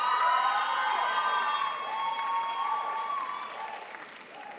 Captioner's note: crowd applauds